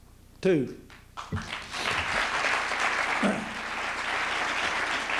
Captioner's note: applause